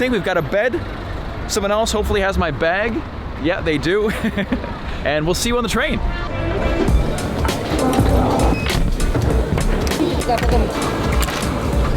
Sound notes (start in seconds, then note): 4.6 laughs; 6.0 upbeat music